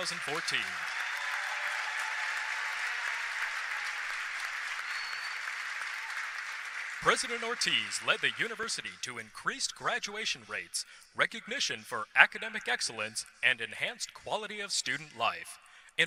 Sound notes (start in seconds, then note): 3.0 applause